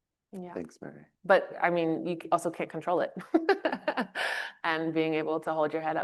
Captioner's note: chuckles